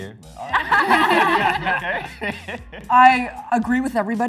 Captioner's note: all laugh